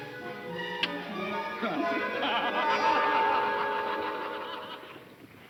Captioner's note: all laughing